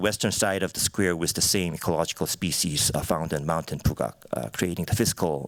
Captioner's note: korean